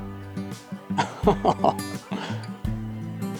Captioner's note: laughing